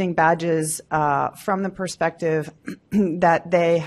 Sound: clears throat

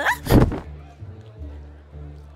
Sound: grunt / falls to ground

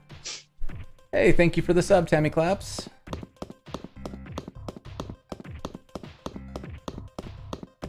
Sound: footsteps

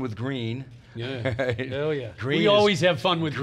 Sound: laughs

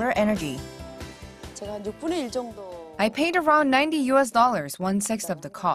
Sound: Korean

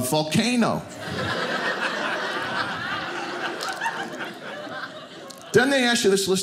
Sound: audience laughing

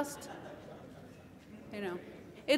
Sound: laughter

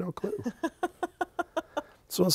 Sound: laughing

